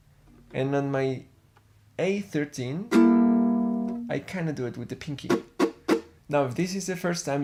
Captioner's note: click